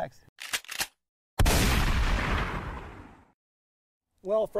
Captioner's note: shotgun Cock and Pow!